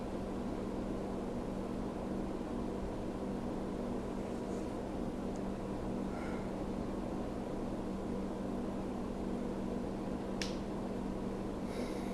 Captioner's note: white noise